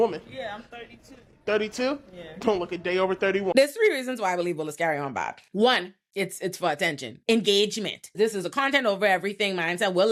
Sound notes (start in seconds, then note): none